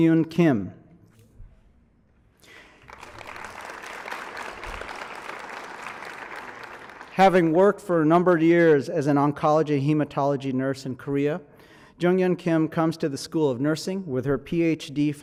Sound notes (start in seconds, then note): 2.4 applause